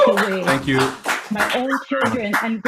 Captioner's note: people clapping